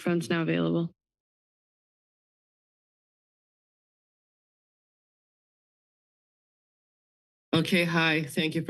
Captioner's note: silence